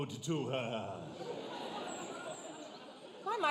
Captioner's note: audience laughs